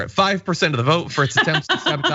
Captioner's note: laugh